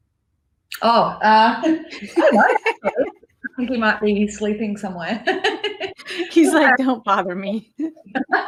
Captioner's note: laughing